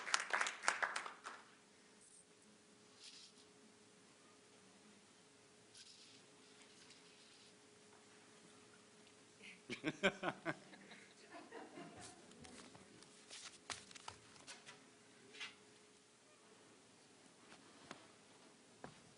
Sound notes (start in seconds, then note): 9.6 laughter